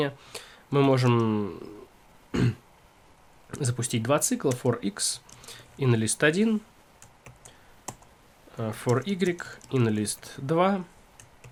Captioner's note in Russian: откашливается